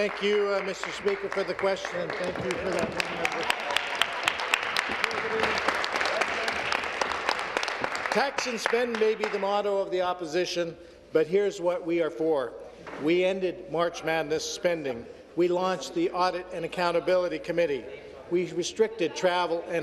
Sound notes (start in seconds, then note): 7.6 applause